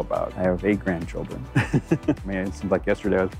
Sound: laughs

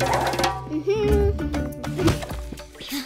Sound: humming

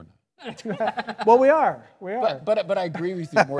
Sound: panelists laughing

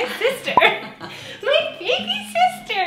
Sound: both laughing

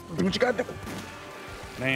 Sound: gunshot

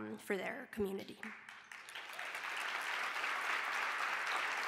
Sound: applause

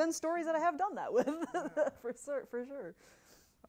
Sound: laughs

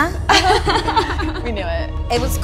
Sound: girls laugh

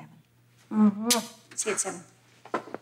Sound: lips smack

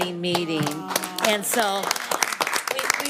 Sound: all clapping

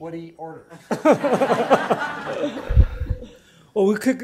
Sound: laughter

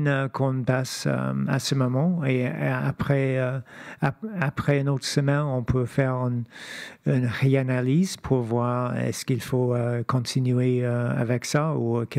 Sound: speaking French

